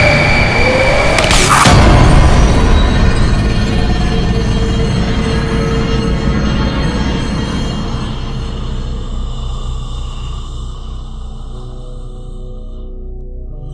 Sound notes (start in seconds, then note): 0.5 screaming; 4.9 suspenseful music; 11.0 eerie music